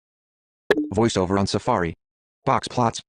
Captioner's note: voiceover